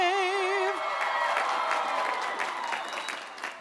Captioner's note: applause